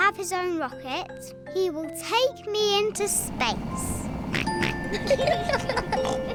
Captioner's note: oinks; both giggle